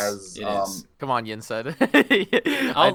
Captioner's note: laughs